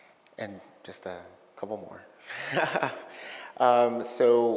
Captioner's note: laughing